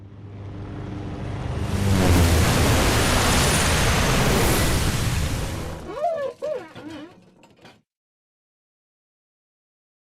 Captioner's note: sound of airplanes flying